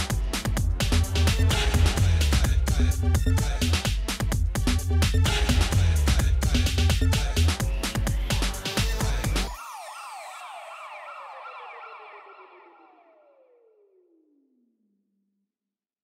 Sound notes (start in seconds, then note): 7.8 sirens sounding